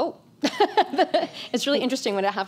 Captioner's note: laughs